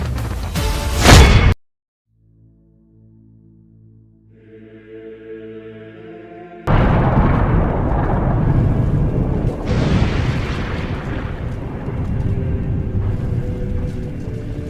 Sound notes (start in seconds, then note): 5.9 tense music; 6.7 bombs banging